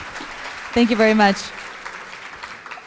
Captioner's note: applause